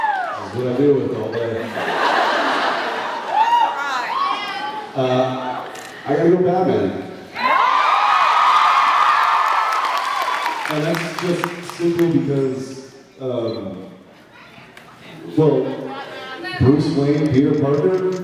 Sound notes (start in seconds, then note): 1.4 laughs; 7.3 cheers, applauds